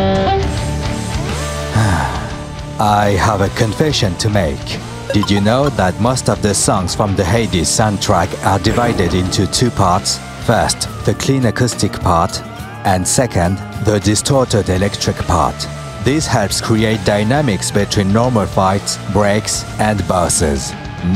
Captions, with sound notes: *Sigh* I have a confession to make Did you know that most of the songs from the HADES soundtrack Are divided into 2 parts? First, the clean acoustic part And second, the distorted electric part This helps create dynamics between normal fights, breaks and bosses